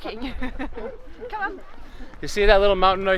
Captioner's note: laughs